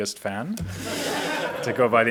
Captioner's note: audience laughs